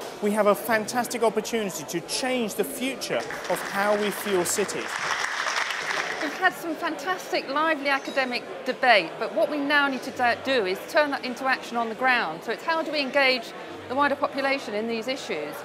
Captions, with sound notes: We have a fantastic opportunity to change the future of how we fill city. [ Applause ] [ Background Discussion ] >> We've had some fantastic lively academic debate but what we now need to do is turn that into action on the ground. So how do engage the wider population in these issues.